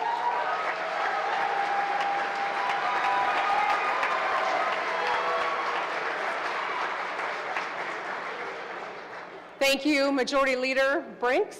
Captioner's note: cheers and applause